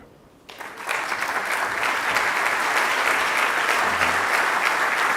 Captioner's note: audience applause